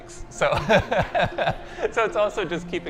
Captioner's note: laughing